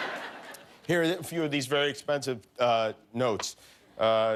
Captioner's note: laughter